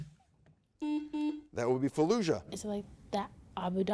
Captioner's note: button blips